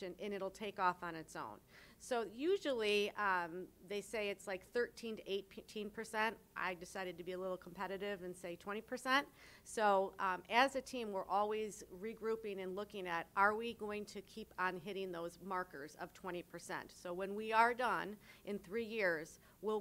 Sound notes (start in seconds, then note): none